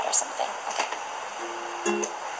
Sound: background ocean sounds

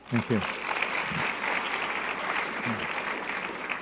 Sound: audience applause

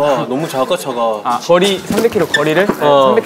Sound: flap

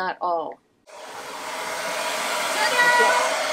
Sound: hair dryer blowing

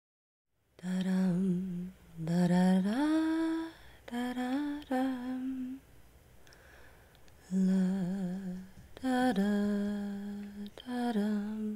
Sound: humming

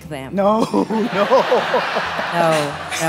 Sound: pastor laughing

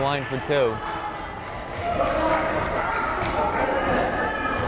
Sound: crowd chattering

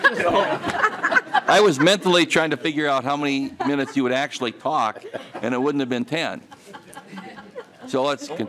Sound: laughing

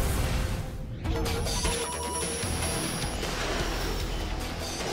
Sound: electronic sounds

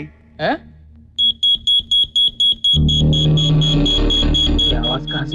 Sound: pager ringing

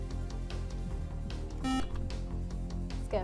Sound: buzzer

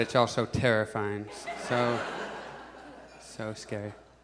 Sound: audience laughs

